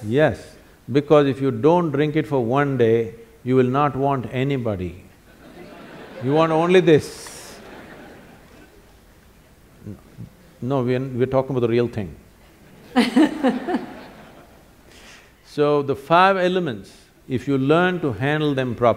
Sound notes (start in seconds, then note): 5.3 laughter; 12.7 laughter